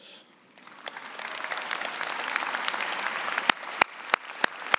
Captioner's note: applause